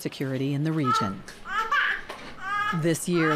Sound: baby cries

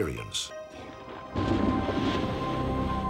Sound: thunder

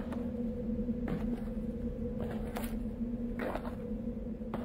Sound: light wind sound and footsteps

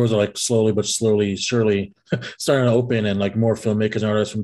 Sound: chuckles

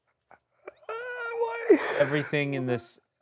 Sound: laughs

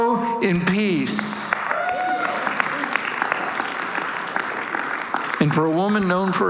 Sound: congregation cheering and applauding

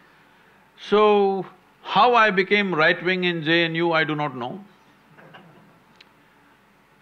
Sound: few laugh

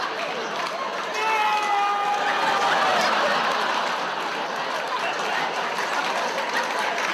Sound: audience laughs

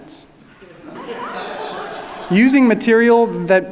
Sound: audience laughing

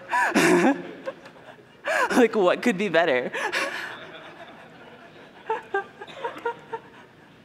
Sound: laughter

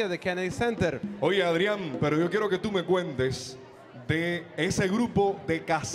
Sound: MC speaking in Spanish

